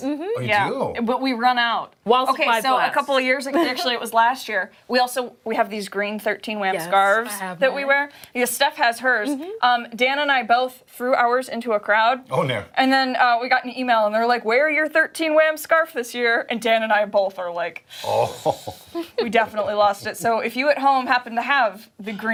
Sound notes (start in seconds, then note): 3.5 laughter